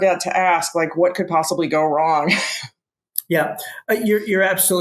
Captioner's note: laughs